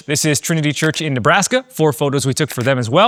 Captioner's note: camera clicking; camera clicking